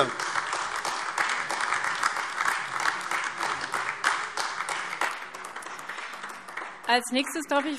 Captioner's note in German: Beifall AfD